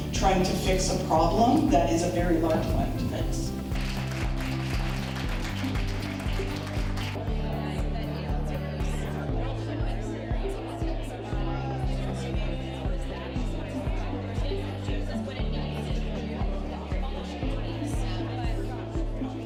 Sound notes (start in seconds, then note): 2.6 audience applause; 7.4 crowd conversation